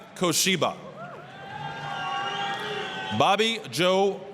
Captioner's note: applause, cheering